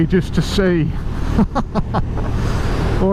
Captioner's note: laughs